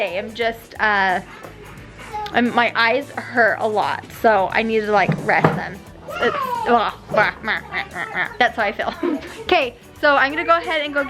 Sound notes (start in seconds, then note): 6.7 croaking